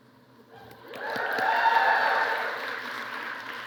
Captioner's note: applause